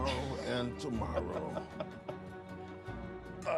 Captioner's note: laughs